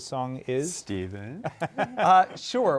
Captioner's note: laughter